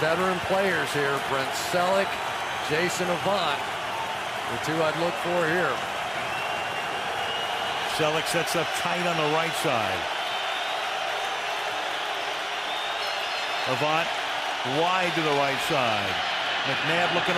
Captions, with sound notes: of these veteran players here, Brent Celek, Jason Avant, the two I'd look for here. Celek sets up tight on the right side. [cheering] Avant wide to the right side.